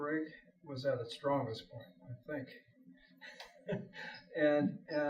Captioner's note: laughs